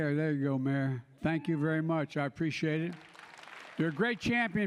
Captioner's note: applause